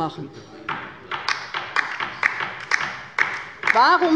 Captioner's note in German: Beifall bei der LINKEN